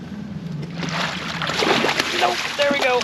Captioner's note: fish splashing